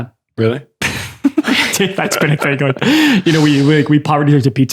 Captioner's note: laughter